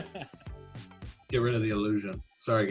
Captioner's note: laughs